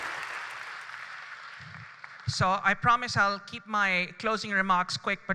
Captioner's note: applause